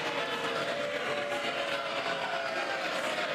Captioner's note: cheers and applause